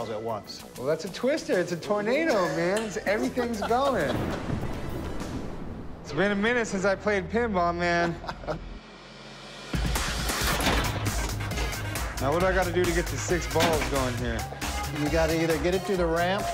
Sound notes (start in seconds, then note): 4.0 thunder rumbling; 8.0 chuckles